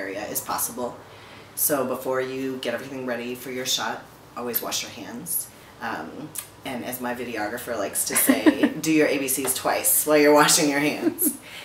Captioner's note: laughter in background